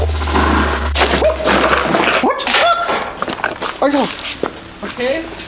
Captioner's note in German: schreie